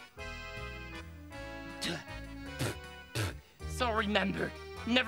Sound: spits

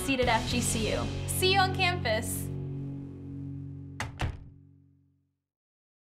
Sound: door closes

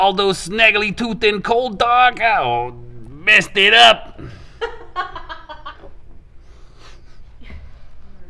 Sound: laughing off screen

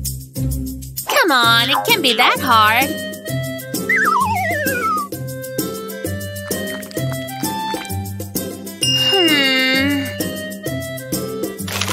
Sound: yawning

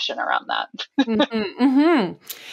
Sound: laughs

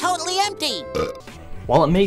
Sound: Gary burps

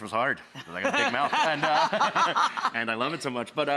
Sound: laughs

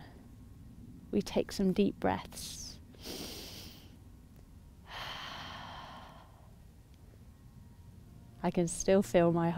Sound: inhales and exhales

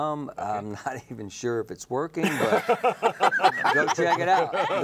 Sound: laughing

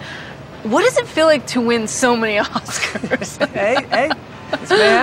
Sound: chuckling; laughing

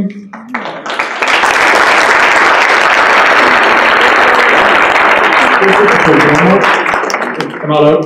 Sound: applause

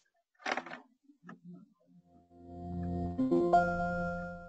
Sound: electronic tone chiming

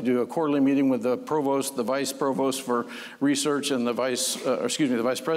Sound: none

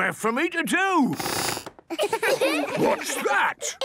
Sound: squeaks

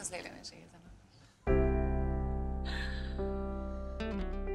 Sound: chuckles

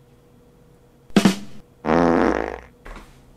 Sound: buh-dum-fart noise

